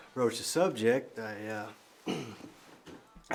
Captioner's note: clears throat